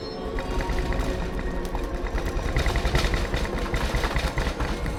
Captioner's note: rattling and clattering